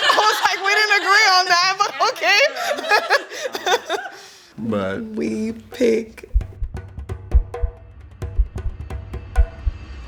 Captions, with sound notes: (all laughs) I was like we didn't agree on that, but okay. (all chuckles) - But - We pick (suspenseful music)